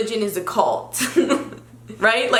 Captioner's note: giggles